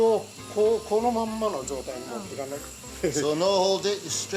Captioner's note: speaks Japanese